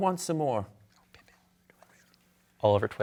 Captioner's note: team whispering